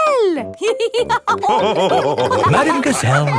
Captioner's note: all laughing